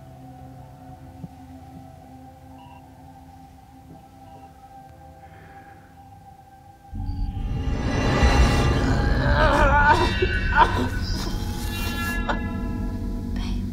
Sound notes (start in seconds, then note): 7.7 dark music; 8.7 moans in pain